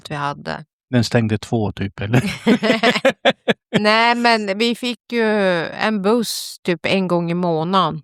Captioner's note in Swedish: skratt